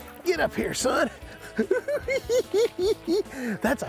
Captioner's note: cackling